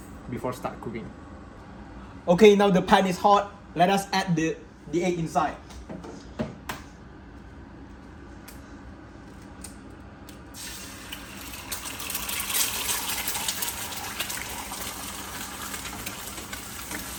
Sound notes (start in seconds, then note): 10.5 cooking sound